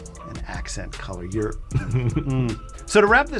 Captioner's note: chuckles